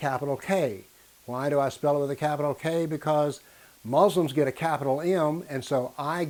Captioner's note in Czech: v angličtině